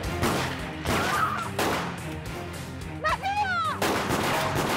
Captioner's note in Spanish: Disparos